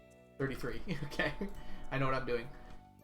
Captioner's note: chuckles